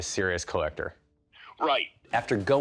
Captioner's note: on phone